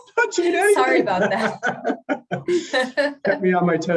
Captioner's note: laughs